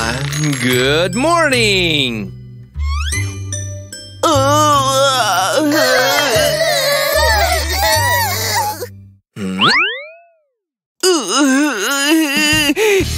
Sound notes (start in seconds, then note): 4.2 groans; 4.2 moaning; 7.5 making irritated sounds